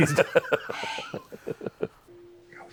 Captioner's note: laughter